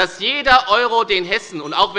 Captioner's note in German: Unruhe – Glockenzeichen des Präsidenten